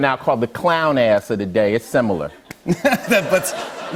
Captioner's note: light laughter